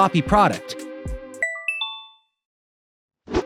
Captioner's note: chiming